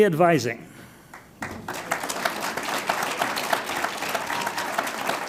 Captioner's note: audience applauds